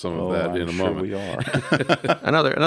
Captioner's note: laugh